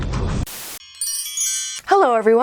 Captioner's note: chimes